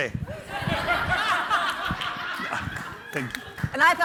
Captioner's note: group laughing